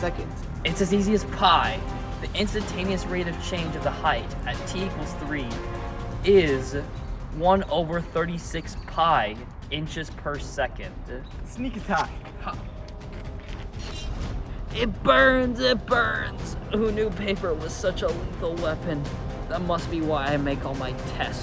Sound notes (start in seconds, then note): 12.5 paper Razor Blade Slicing Sounds